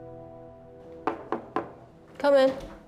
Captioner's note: knock on door